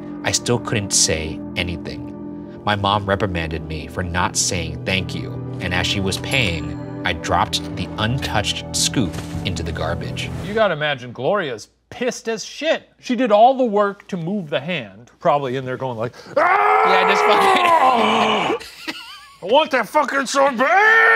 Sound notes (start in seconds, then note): 16.4 grunting noises; 16.9 laughing